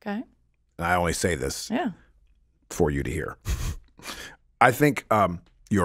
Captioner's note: laughs